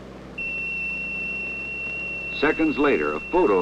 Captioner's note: high-pitched beep